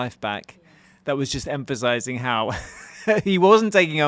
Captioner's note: laughing